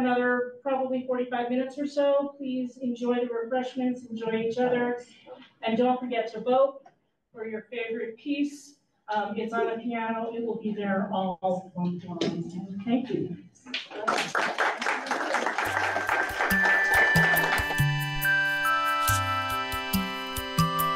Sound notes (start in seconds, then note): 13.7 audience claps; 18.3 gentle music